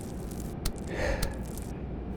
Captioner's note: Wildcard exhales